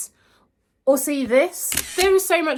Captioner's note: camera clicks